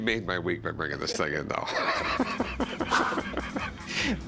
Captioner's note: laughing